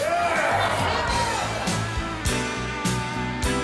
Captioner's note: audience cheers; easygoing music